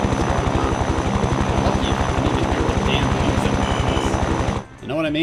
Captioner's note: plane engine go wrrrrrrr